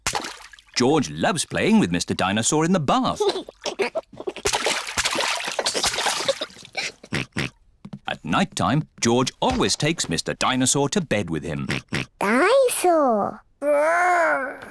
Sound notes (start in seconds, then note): 3.1 giggles; 6.7 oinks; 11.6 oinks